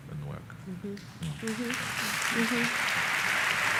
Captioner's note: applause